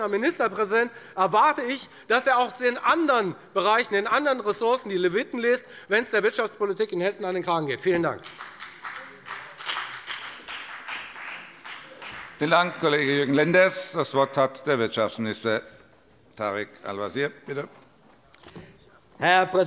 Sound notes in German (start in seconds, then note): 9.9 Beifall bei der FDP